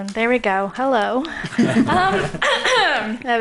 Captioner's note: laughing